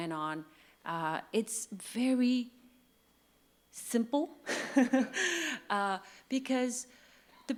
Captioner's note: laughs